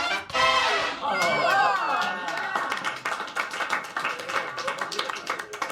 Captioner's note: upbeat music; The Office cast applauding